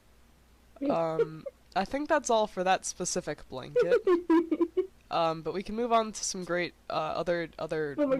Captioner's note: laughter